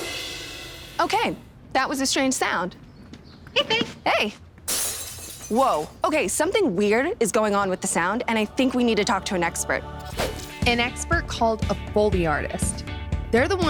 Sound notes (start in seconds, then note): 4.6 glass shattering